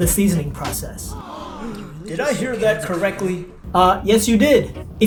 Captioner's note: gasps